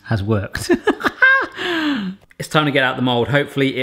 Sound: laughing

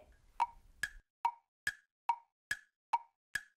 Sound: clock ticking

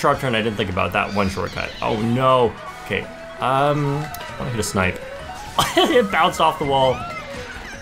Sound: laughs

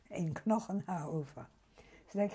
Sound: german

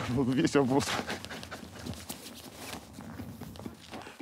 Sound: both laugh

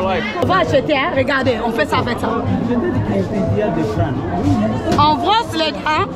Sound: woman speaking foriegn language

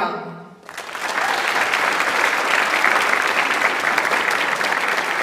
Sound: audience applauds

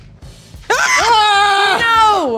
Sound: screaming

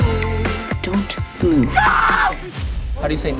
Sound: screams

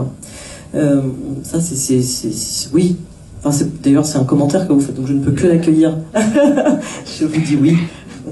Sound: laugh

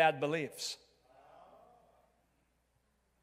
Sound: crowd

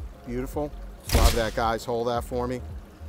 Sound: camera shutter snaps

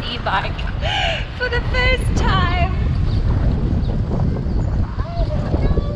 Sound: laughs

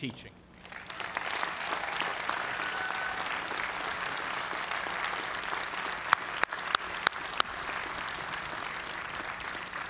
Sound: applause

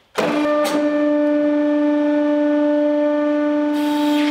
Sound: mechanical whirring

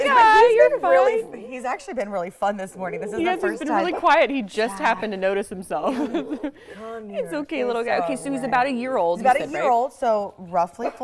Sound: laughter; dog growling

